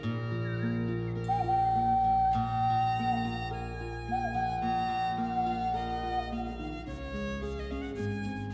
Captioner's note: sound of a train